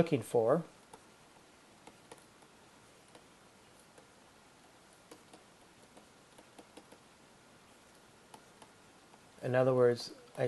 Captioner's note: writing